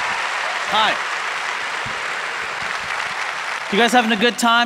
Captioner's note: applause